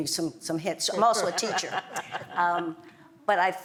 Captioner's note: laugh